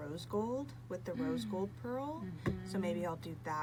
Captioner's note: gasps